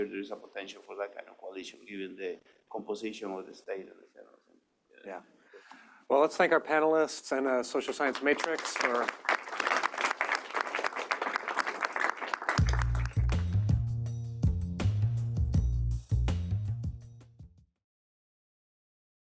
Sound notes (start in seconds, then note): 7.8 applause